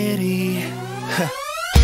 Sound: laughs

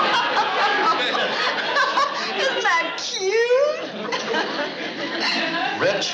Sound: laughs

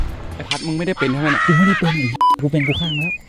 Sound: pat

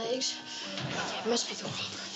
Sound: audience laughs

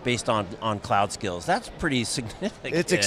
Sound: chuckles

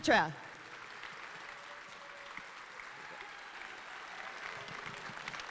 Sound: audience applauding and cheering

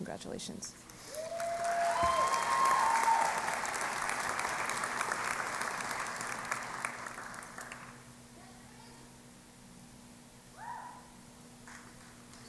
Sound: cheering and Applause

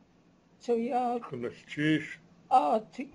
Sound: non-english speech

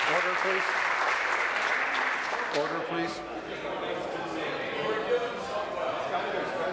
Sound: applause

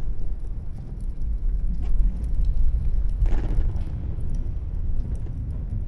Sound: none

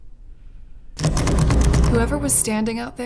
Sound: door handle sound

